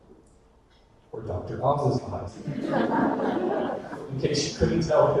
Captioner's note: audience laughter